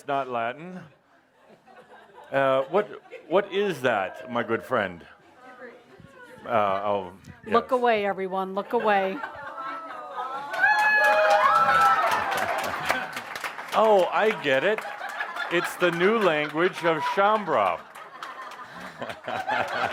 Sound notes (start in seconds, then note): 9.7 audience laughter and applause as shows them what it means – “f*** off”; 17.3 laughter